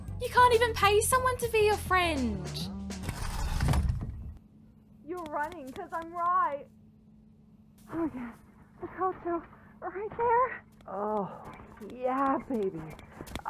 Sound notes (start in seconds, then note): 3.1 KOTONOHA slams door open